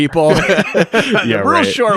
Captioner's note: both laugh